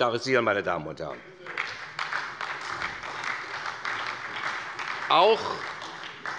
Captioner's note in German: Beifall bei der SPD